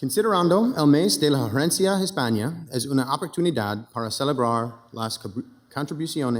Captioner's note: speaking in foreign language